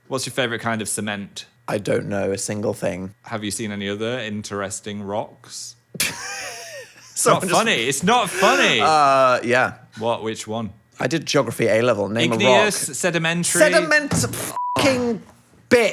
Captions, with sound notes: What's your favorite kind of cement? - I don't know a single thing. - Have you seen any of the interesting rocks? (laughing) - It's not funny. It's not funny. - Yeah. - Which one? - I did Geography A level. Name a rock. - Igneous, sedimentary. - Sediment (beep) bitch.